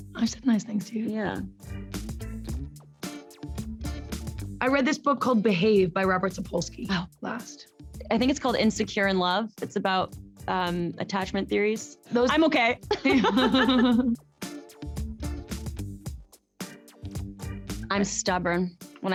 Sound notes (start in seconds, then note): 2.1 upbeat music; 12.9 both laughing